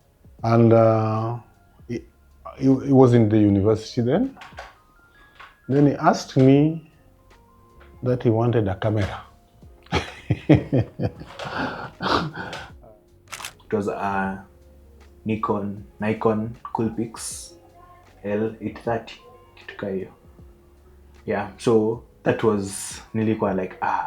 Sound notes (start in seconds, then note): 9.8 laughs